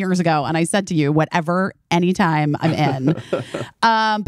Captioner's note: laughing